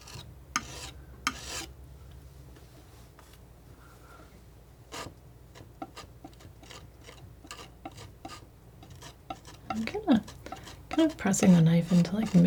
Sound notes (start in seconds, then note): 1.4 tapping